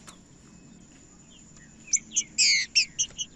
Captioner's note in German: trinca ferro cantando